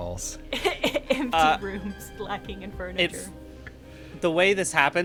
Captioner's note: laughs